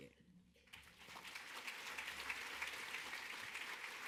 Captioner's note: crowd clapping